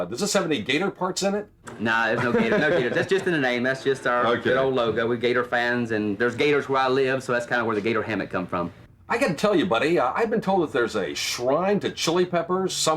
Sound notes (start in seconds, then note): 2.1 laughing